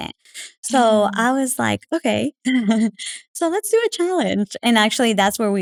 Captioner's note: laugh